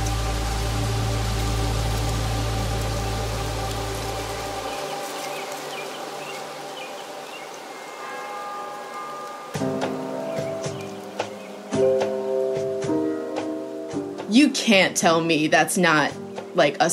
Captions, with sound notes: (ambient music) (rain pattering) (bell ringing) (dramatic music) You can't tell me that's not, like,